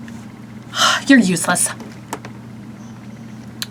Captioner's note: sighing